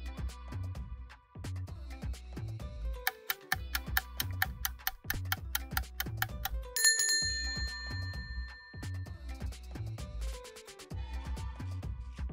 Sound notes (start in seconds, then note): 3.0 timer ticks; 6.7 timer rings